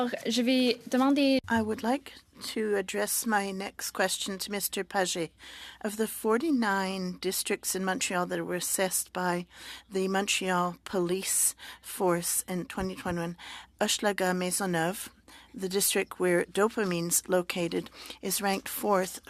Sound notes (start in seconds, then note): 6.3 speaking French